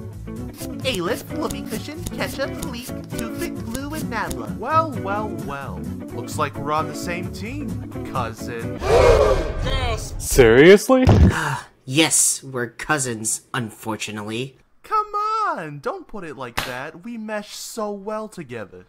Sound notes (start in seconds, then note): 8.8 collective gasp from Team 4